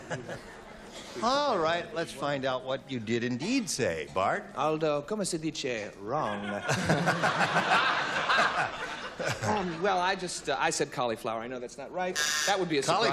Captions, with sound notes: - I suppose not. - All right, let's find out what you did indeed say. Bart? - [speaking italian] "wrong"? Well, I just-- I said cauliflower.